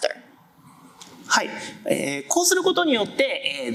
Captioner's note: speaking japanese